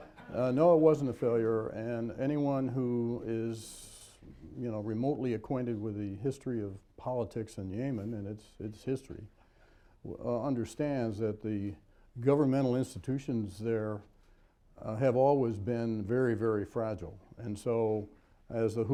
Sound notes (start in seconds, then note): 1.2 laughter